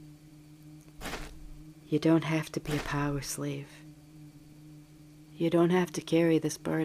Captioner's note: footsteps